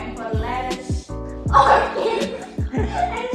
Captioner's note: giggles